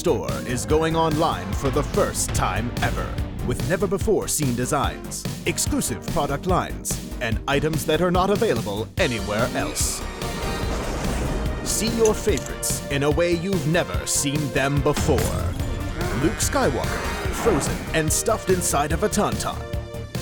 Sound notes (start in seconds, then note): 10.0 crash